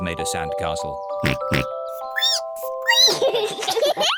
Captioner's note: oinks; squeaks; both giggle